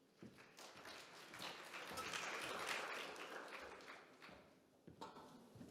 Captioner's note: audience clapping